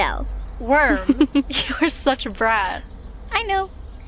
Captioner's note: Grace laughs